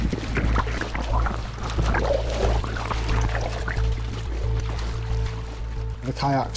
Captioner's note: soft tense music; water splashing